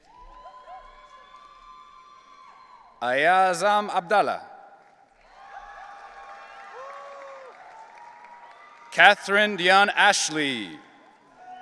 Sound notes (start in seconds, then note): 0.0 audience cheering